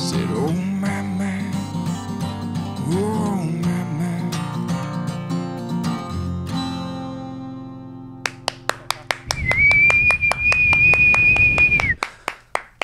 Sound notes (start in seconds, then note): 8.2 clapping and whistling